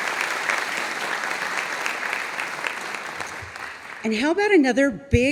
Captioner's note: audience applauding